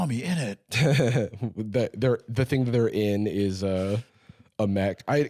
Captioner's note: laughs